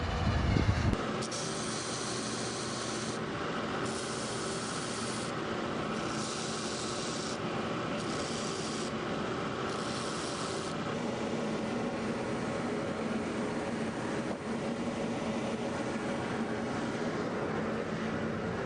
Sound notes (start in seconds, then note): 1.6 machines whirring